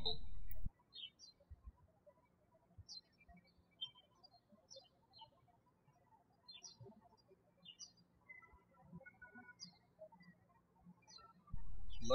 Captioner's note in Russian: птички щебечут